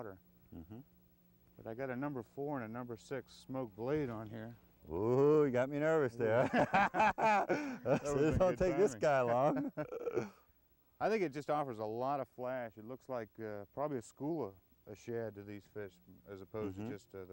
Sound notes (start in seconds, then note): 6.3 laughter